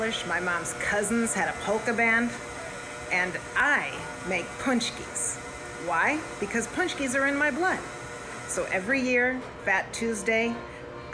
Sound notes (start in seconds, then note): none